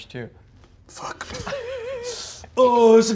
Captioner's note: sniffs